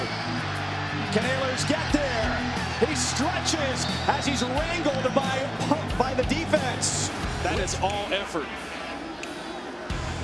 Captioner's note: cheers and applause